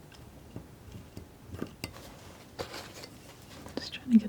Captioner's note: scratching